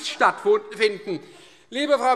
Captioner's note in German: Heiterkeit Freie Demokraten